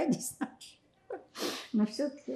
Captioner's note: laughing